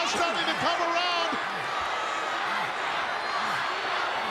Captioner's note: crowd yelling